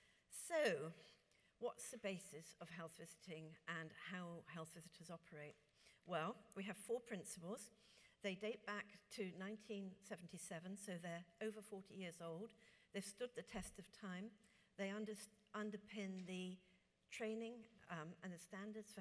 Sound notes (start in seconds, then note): none